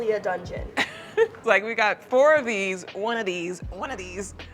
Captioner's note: laughs